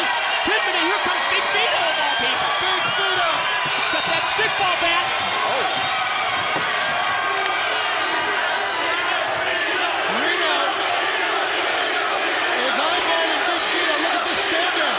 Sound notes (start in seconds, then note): 6.4 crowd cheering